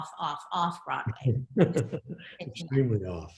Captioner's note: laughs